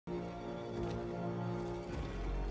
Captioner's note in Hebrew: צעדים כבדים